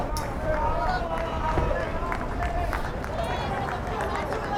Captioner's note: players yelling